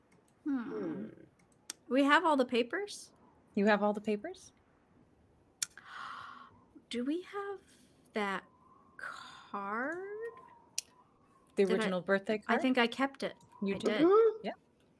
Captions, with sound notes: - Hmm. - Hmm. - We have all the papers. - You have all the papers. - (gasps) Do we have that card? - The original birthday card? - I think I kept it. - You did. Yep.